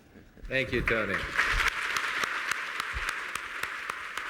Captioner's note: applause